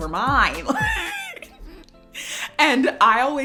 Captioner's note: laughs